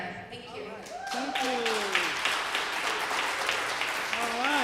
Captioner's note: applause